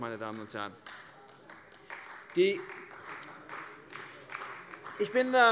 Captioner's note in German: Beifall bei der CDU